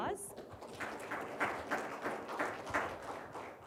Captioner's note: audience applauds